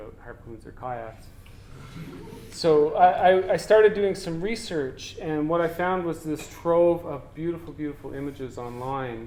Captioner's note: audience: Laughter